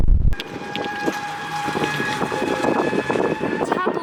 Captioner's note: Гольф-кар мчится на большой скорости